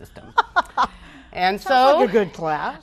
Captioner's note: laughs